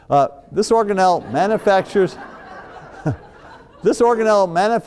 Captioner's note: audience laughs